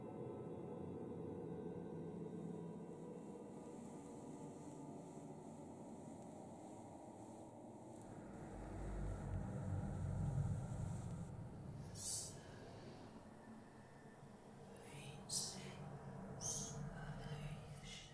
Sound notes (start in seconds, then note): 12.7 voice whispers faintly